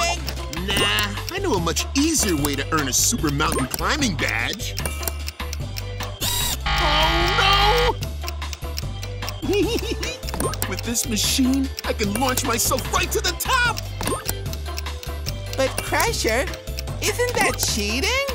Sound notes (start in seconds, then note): 6.2 buzzing; 9.4 giggling